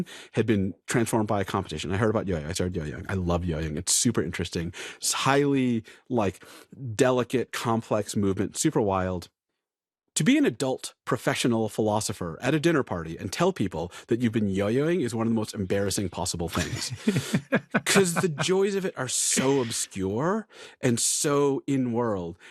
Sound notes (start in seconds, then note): 16.5 laughs